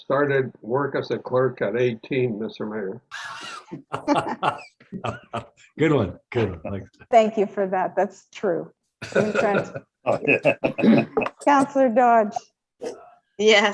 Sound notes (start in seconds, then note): 0.2 laugh; 9.0 councilor laughs